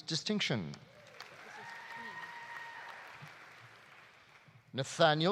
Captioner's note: audience cheering; audience applauding